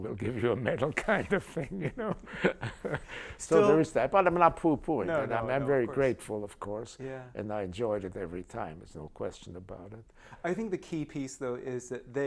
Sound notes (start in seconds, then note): 0.9 laughter